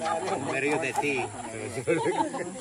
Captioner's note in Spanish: risas